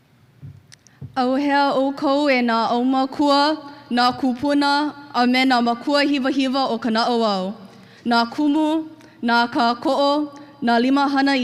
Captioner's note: speaks in Hawaiian